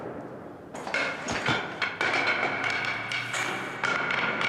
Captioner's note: gunshot ringing; baton falling